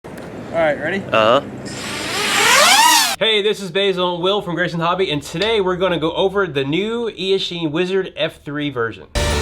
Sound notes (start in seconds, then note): 1.6 drone flying